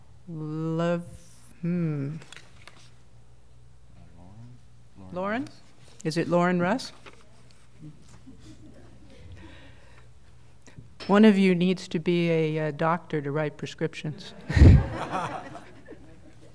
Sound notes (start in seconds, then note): 14.3 laughter